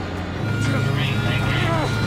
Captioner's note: beeping